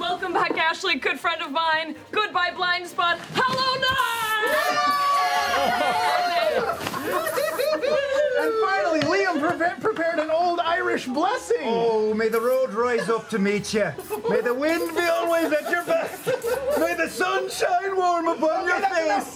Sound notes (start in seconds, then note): 4.2 cheering; 12.3 Irish accent